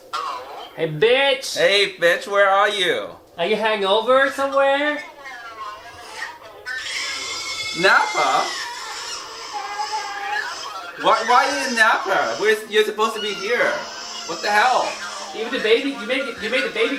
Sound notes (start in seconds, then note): 7.0 baby crying; 9.0 baby crying